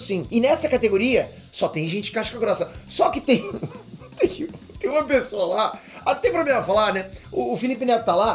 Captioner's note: laughing